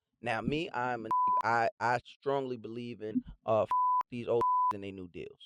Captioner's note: beep